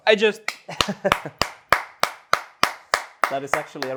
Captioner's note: claps